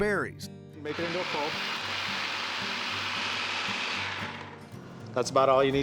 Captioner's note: buzzing, blending sound